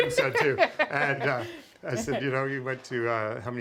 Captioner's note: laughter